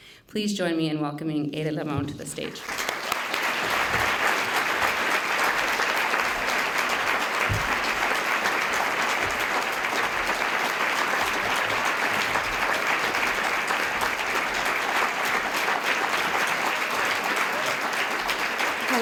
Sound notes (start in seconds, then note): 3.4 applause